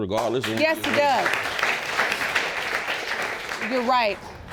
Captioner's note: audience applauds